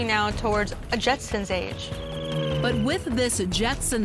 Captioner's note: spaceship whirring